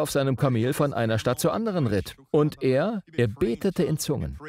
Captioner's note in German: redet in Zungen